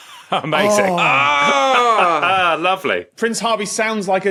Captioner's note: laughs